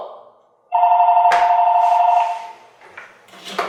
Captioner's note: phone rings